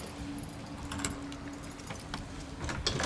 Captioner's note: door opens